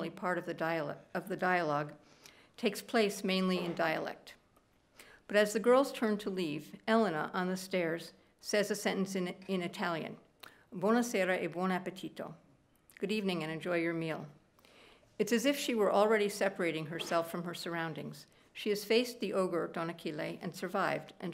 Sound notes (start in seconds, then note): 10.7 speaking italian